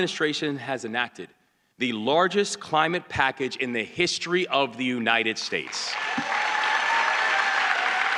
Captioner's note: applause